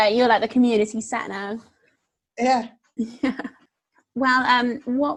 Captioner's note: laughs